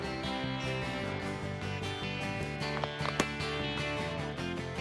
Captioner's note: multiple gunshots